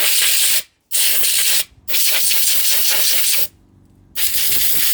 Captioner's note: air compressor whirring